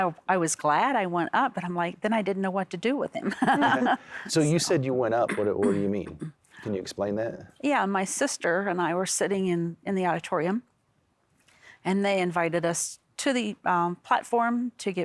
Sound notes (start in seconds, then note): 3.2 laughing